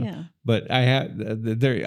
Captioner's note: laughing